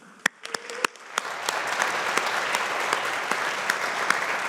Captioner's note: audience applauding